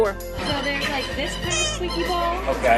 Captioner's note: toys squeak